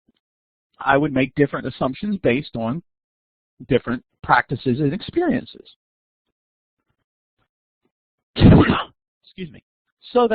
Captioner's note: sneeze